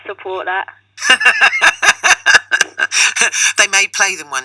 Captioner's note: laughs